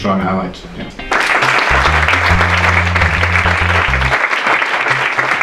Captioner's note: applause